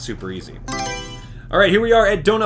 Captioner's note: Mario Selection Sound